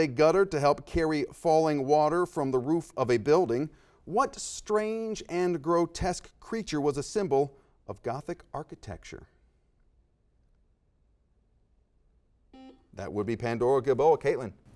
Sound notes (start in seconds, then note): 9.3 silence; 12.5 beeps